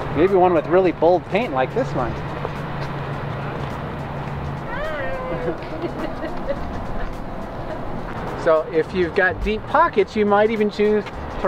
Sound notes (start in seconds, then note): 4.8 laughs